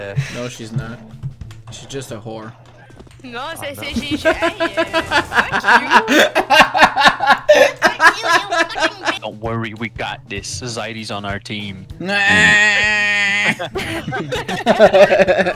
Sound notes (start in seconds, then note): 12.0 cries